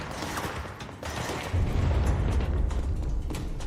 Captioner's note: distant explosion